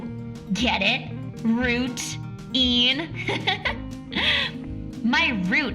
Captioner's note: laughs